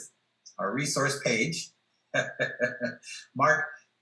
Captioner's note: laughs